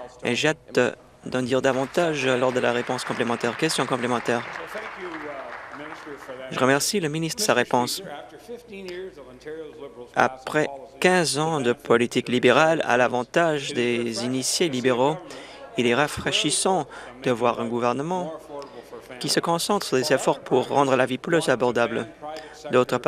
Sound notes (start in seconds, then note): 7.6 applause